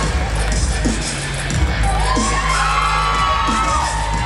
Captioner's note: cheering